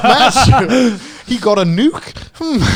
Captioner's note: all laughing